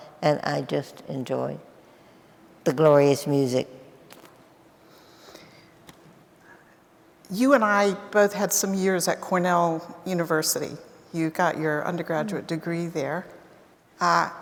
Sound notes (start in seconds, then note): none